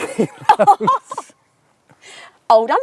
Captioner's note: laughs